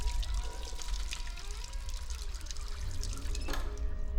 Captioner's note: door creaking; faucet stops